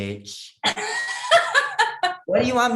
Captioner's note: laugh